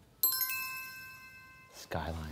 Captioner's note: bell dinging